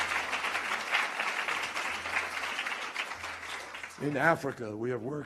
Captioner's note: applause